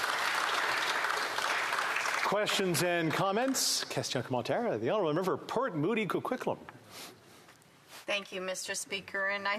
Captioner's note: applause